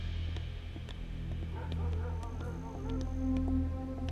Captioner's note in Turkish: köpek havlama sesleri̇